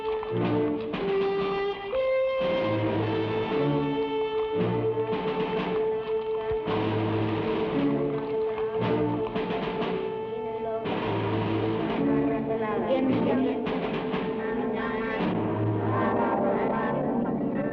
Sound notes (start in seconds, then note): 12.5 people praying in Tagalog